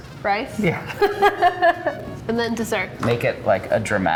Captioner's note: laughs